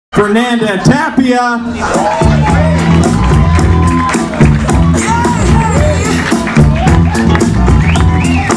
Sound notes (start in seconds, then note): 2.9 upbeat music; 4.4 audience clapping